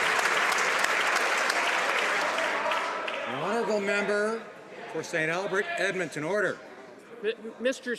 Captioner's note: some Applause